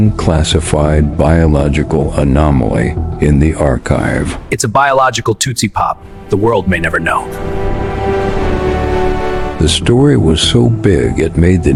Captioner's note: sarcastic Commentary